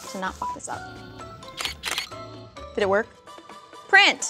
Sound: camera clicks

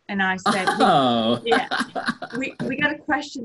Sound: laughs

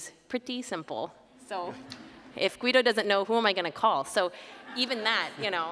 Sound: laughter

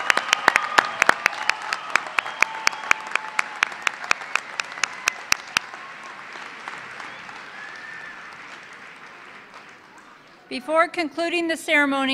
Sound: cheers and Applause

